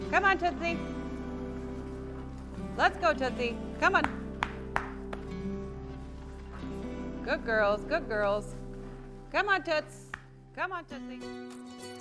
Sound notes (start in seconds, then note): 4.0 clapping